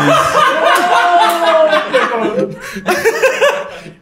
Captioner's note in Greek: γέλια